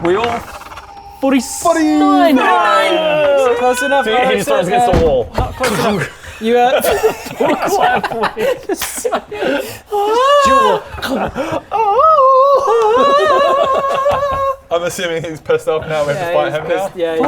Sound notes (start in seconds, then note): 7.6 mean giggles